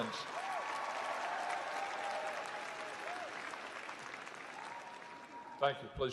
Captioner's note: applause